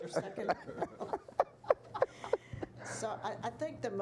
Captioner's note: all laughing